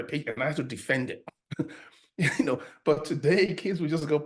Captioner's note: chuckles